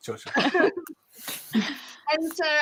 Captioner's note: laughing